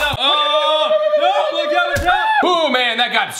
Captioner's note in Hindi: जोर से चिल्लाते और चीखते हैं